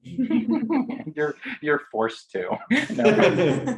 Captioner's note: laughing